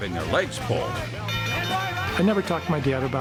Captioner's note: bell rings